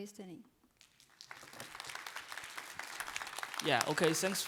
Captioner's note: applause